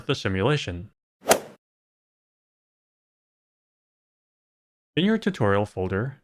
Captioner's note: golf ball hit sound